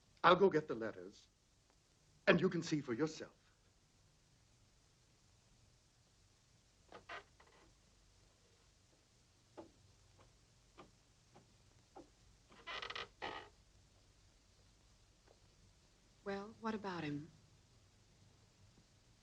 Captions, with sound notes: I'll go get the letters and you can see for yourself. (stairs creaking) - Well, what about him?